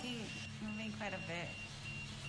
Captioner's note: beeping continue